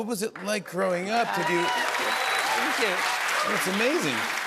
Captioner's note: cheers and applause